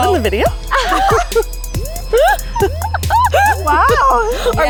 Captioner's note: women laugh